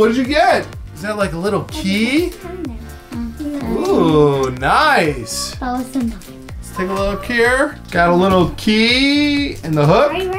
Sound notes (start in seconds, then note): 1.7 both girls mumbling